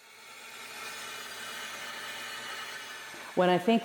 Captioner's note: machine whirring